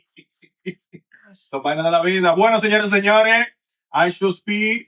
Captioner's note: laughing; speaking In Spanish